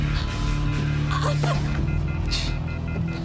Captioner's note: choking